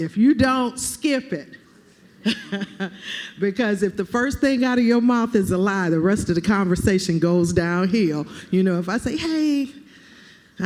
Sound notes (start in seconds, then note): 2.2 laughter